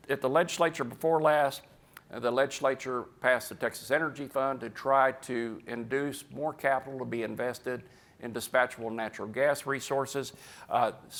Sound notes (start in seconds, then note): none